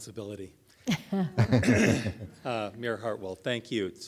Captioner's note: all chuckling